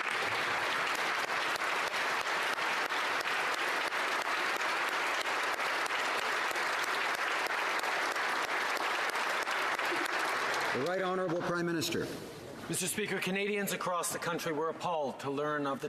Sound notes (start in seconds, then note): 7.5 applause